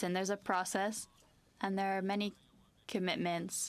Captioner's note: speaking French